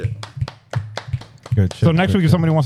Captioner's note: clapping